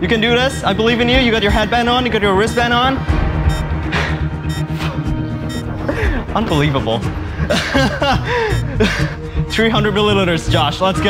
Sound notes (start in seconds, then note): 7.2 laughs